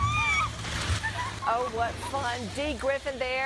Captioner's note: screams